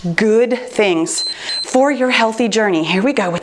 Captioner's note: timer beeps